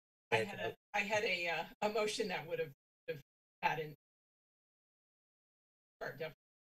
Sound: speaks faintly

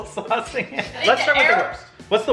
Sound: laughs

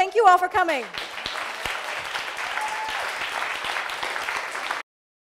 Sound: applause

